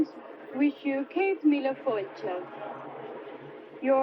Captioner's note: speaking foreign language